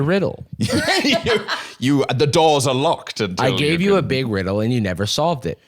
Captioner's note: laughs